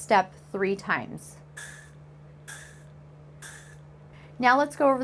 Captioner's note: three puffs